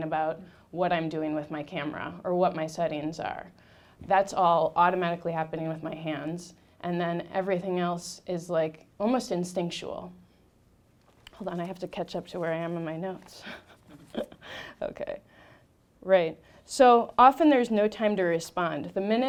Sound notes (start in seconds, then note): 13.4 laughing